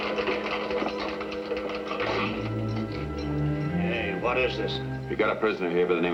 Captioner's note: keys jingling